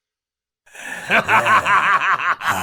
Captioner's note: laughs heartily